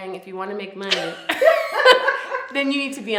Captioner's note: both laughing